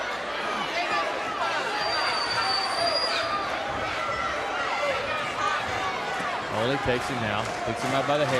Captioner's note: crowd chatter